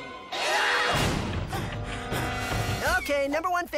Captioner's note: panting